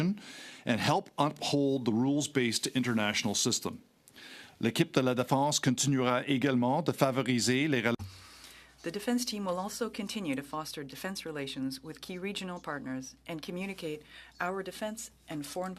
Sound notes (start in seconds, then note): 8.7 speaking French